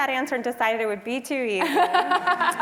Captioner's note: laugh